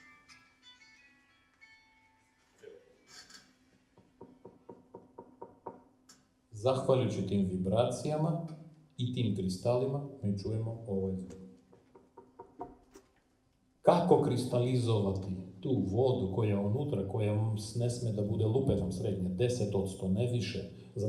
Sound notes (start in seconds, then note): 11.7 knocks on wood again